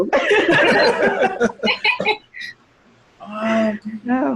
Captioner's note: all laughing